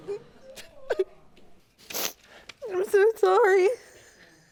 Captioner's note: crying